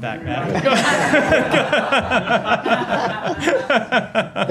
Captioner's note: laughter